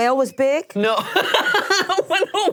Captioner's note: laughs